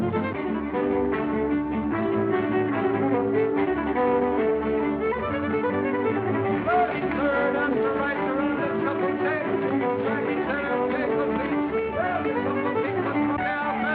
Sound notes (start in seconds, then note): 6.8 hollering